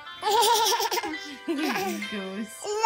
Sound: giggles

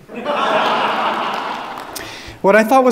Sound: audience laughing

